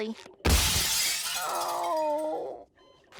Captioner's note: glass breaking